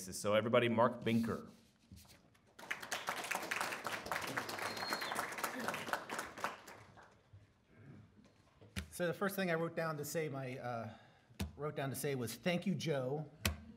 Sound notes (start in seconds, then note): 2.5 audience clapping